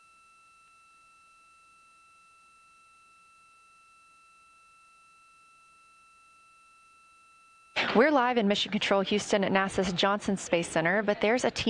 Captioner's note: silence